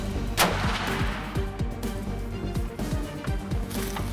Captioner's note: gunshot